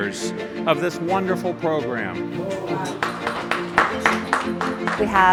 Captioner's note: attendees applauding